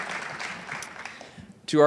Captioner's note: audience applauds